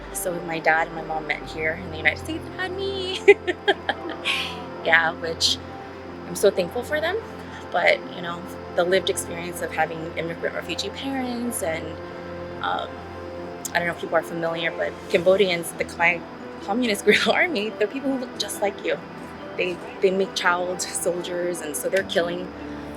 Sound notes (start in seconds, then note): 3.1 laughs